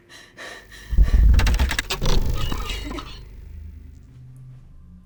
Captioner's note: electricity arcing